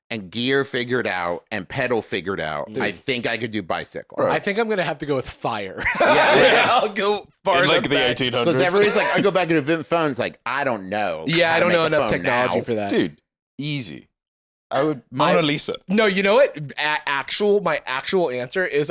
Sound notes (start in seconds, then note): 5.8 laughs